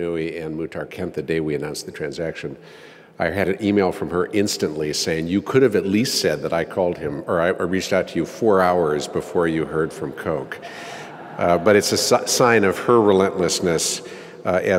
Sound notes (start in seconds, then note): 10.6 laugh